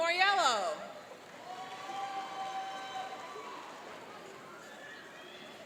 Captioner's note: cheering and applauding